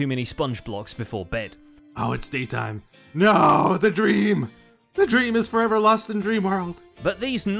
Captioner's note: voice hoarse